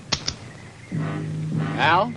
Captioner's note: bullets clicking; tense music